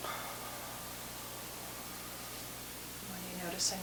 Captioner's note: both exhaling